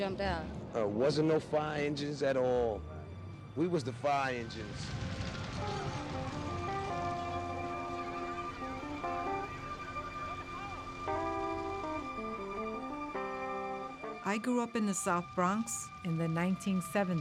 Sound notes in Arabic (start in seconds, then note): 5.0 صوت صفارة الإنذار; 5.0 موسيقى حزينة